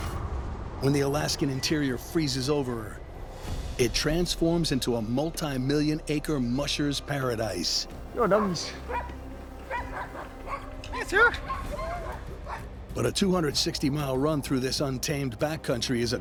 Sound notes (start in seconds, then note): 8.1 dogs barking